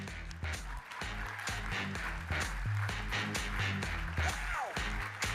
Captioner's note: audience applauding